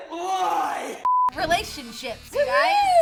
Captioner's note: beep